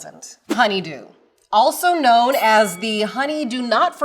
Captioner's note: bell dings